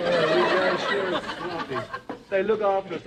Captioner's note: laughter